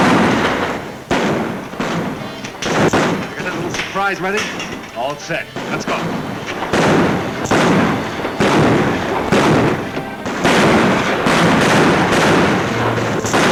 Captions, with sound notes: (guns bang) You got that little surprise ready? - All set. - Let's go! (guns bang)